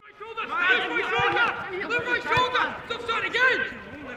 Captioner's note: players shouting